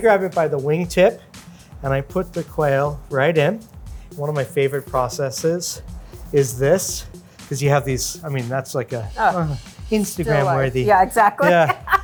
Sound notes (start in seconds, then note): 9.3 moans; 11.3 laughs